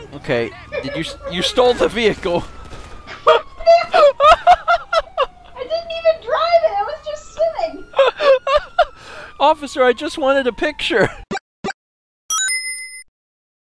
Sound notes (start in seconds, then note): 0.4 laughs; 7.9 laughs; 12.3 ding!